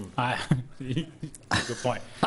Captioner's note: laughing